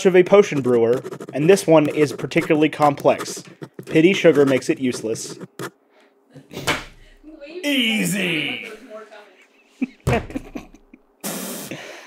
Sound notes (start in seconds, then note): 9.4 laughs